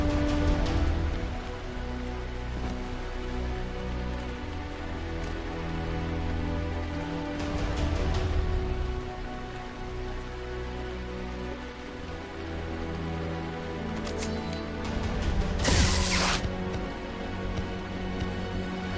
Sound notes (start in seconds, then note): 15.5 laser buzzing